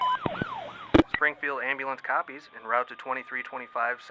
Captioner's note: voiceover